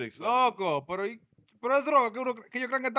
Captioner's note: speaking In Foreign Language